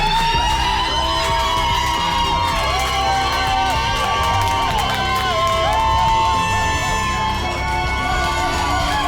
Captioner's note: "susie chan" chant; cheering